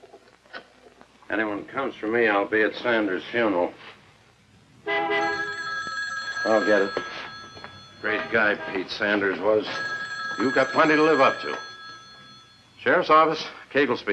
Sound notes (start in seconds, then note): 2.8 car Horn Honks; 4.8 telephone Rings